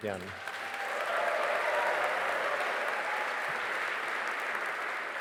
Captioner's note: audience applauding and cheering